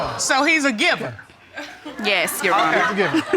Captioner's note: crowd laughing